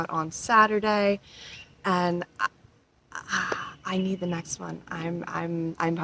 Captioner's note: awed stammering